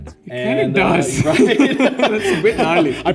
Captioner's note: both laugh